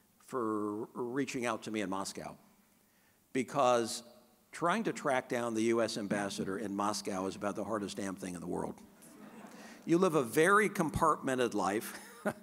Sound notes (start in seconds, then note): 9.1 audience laughing; 11.9 chuckling